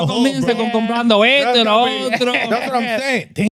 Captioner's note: speaking In Foreign Language